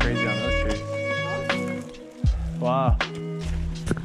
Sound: brakes squeaking

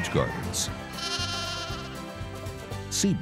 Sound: goat bleating

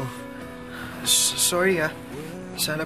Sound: stammers

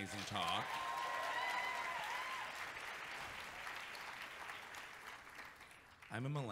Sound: audience cheering and clapping

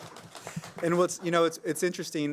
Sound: applause

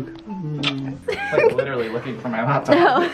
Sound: kissing; giggling

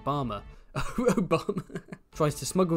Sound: laugh

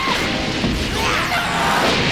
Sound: angry sounds

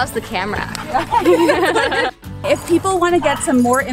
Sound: both laughing

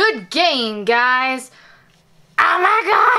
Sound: imitates Rex's voice

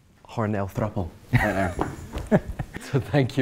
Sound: laughs

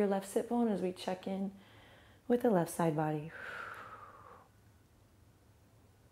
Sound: exhales

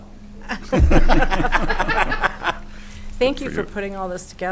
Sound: chuckling

